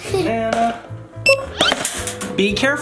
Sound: scanner beeps

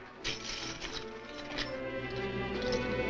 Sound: coins clinking

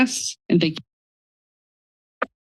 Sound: audio cuts

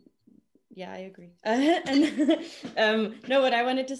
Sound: all laugh

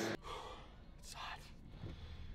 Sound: sighing

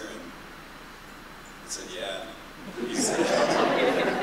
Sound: laughter

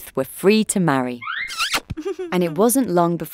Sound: Moab giggling

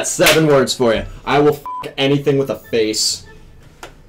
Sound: beep

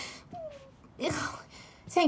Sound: sigh, exhale

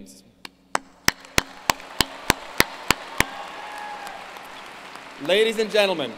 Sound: applause

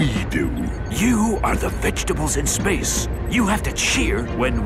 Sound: whispering

